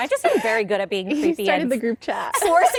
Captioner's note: laughter